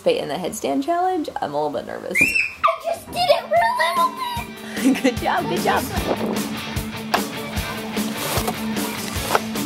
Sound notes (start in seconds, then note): 2.2 screams; 6.0 lively rock music